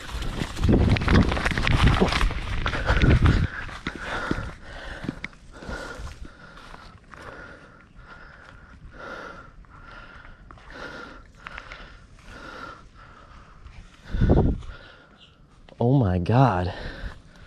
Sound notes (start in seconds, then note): 0.2 footsteps thudding; 2.8 breathing heavily